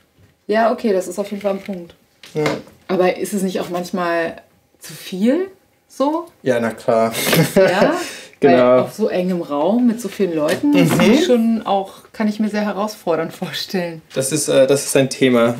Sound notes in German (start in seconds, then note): 7.1 lacht